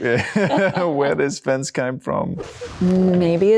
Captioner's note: laughing